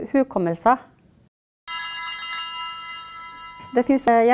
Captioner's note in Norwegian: alarm